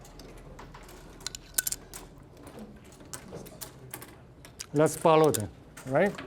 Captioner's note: puzzle pieces clattering